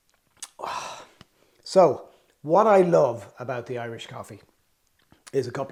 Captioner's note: sips